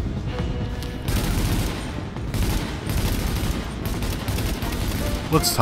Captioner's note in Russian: огонь очередями